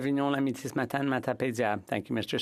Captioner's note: speaking French